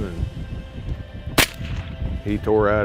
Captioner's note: gun firing